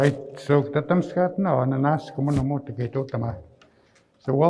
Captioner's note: speaking in Nêhiyawêwin